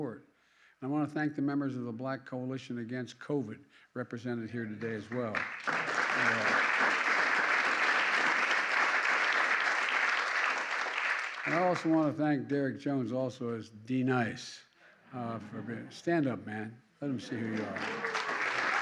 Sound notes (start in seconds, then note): 4.8 applause; 15.3 laughter